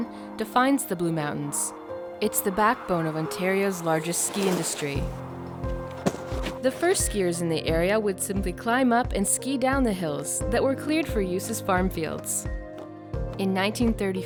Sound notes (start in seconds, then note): 5.5 skis through snow; 6.4 snowboard hits snow